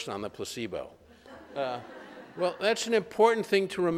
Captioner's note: laughter